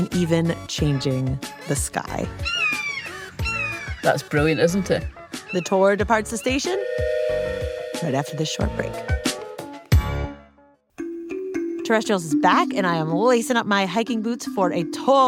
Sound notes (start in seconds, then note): 2.3 caw, caw!; 6.6 train whistle